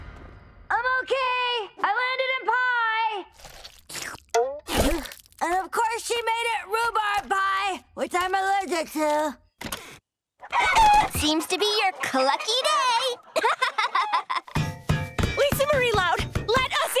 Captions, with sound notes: I'm okay, I landed in pie. And of course she made it rhubarb pie, which I'm allergic to. [clucking] Seems to be your clucky day! [laughing] Lisa Marie Loud! Let us in!